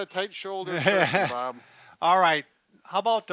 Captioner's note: laughs